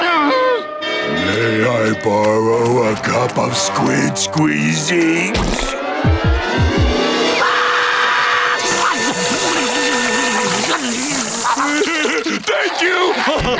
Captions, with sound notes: May I borrow a cup of squid squeezy? [screaming] [laughing] Thank you!